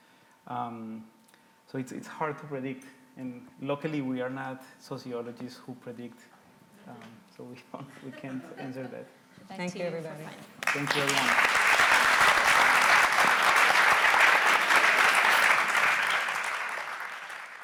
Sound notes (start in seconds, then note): 10.3 audience applauds